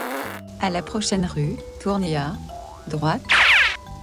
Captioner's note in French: Voix de GPS